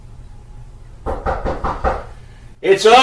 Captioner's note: Knock on Roger's door